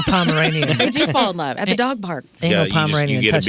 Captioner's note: laughing